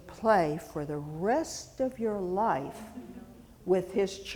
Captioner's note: audience chuckling